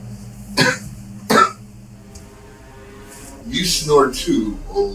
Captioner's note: Doc coughing